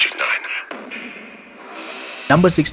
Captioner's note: bang